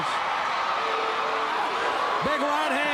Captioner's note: crowd cheering